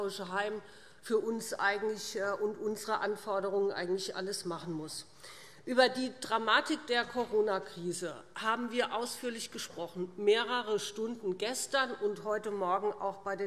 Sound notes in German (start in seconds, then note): none